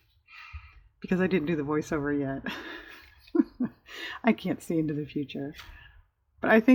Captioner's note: laughs